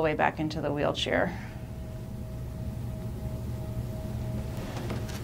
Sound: machine humming

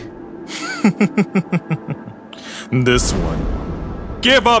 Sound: confident giggling

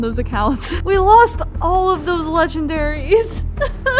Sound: crying

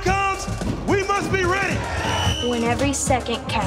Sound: whistle blows

